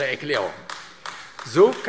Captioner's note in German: Beifall AfD